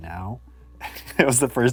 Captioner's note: chuckles